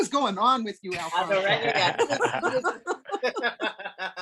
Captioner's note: laughs